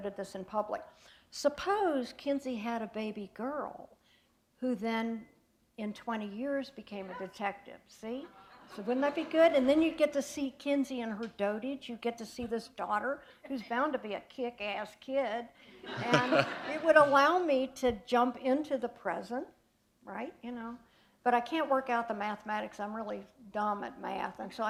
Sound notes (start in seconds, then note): 15.8 laughter